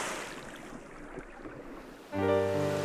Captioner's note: splash